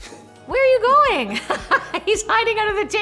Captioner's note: laughs